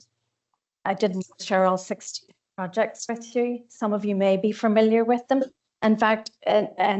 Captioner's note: audio distorts 31.41